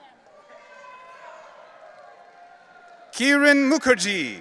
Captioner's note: audience cheering